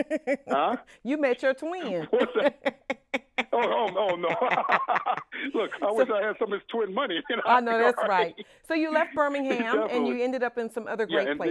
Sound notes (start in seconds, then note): 0.0 laughs; 1.9 laughs; 7.3 laughs